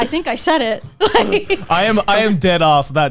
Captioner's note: laughing